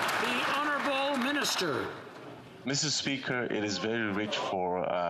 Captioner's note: applause